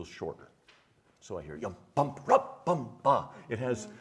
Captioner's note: imitating music